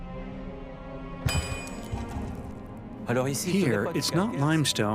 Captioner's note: metal clanks